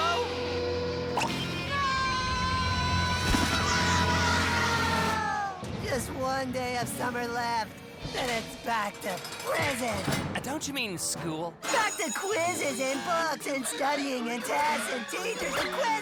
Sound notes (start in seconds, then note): 2.8 birds crow